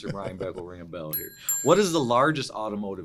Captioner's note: bell rings